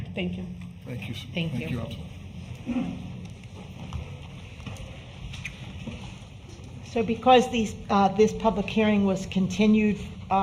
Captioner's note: in unison -- i do